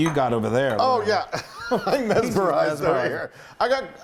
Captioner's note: laugh